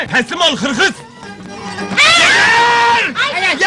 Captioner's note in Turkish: kadinlar korkarak bağirir